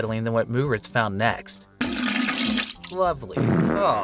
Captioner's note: fart noises; more fart noises